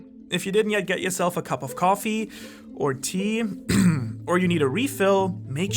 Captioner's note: clears throat